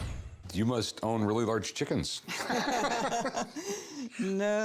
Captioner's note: laughter